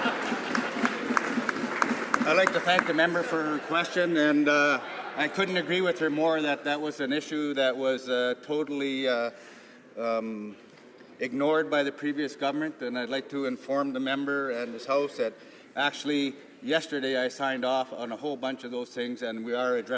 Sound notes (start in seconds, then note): 4.6 some laughter